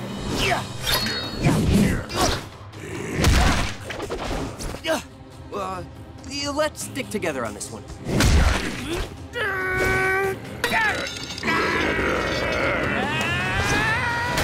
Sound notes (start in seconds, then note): 1.0 groaning and growling; 8.0 growls